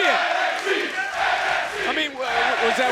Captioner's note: crowd chants "NXT"